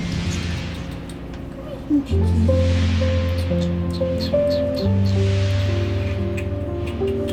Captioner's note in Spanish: Sonidos de besos